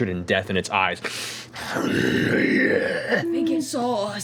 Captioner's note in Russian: ревёт